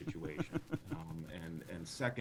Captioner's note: laughing